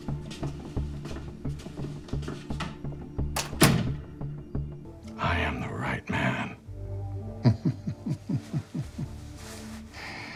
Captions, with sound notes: (door thuds) - I am the right man. (Jack chuckles)